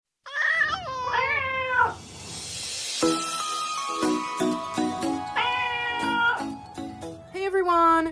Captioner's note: meowing Cats